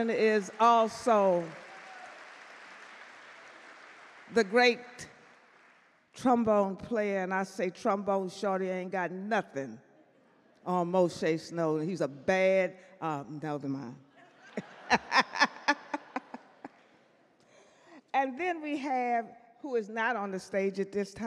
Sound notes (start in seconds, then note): 14.4 audience laugh; 14.4 laughs